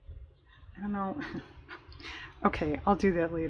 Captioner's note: laughs